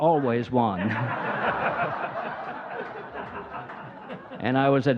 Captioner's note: audience laughing